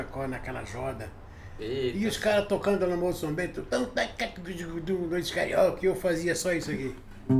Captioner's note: making guitar sounds